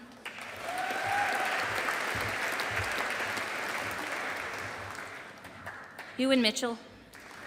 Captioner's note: audience applauding